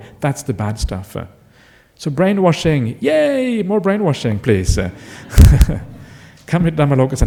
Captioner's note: laughter